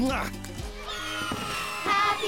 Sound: cheering

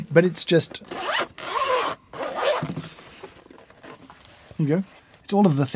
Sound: zipper squeaks

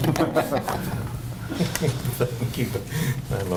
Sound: laughter

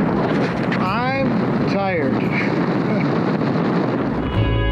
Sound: laughs

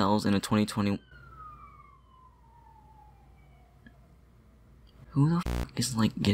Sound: police car screams

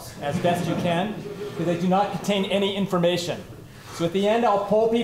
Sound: laughter

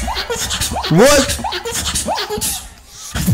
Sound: strong russian accent

